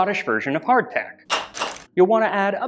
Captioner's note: clack Clack